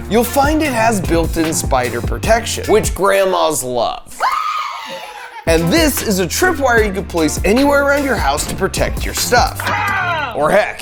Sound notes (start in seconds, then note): 4.2 grandma screaming; 9.7 man screaming